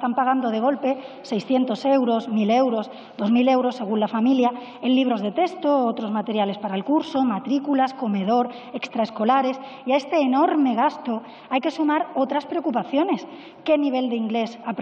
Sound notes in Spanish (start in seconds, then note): none